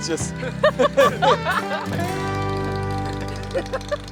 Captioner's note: laughing